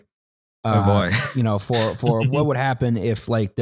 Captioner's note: laughs